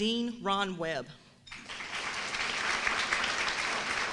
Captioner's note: applauses